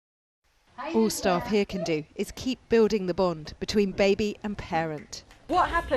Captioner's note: voice-over